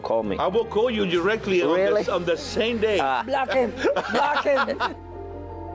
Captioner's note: laughter